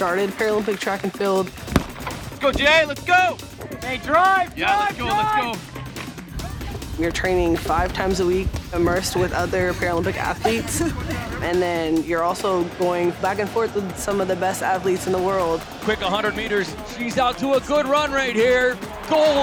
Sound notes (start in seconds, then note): 1.7 starter gun